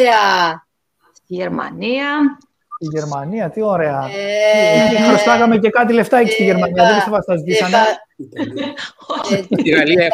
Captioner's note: Γέλια